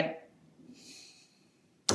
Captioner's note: inhales